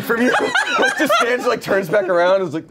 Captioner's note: everyone laughs